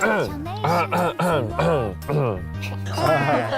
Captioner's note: clears throat